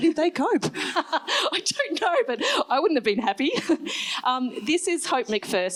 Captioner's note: laughs